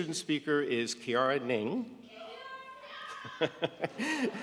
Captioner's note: laughing